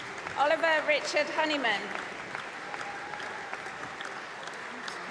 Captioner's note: applause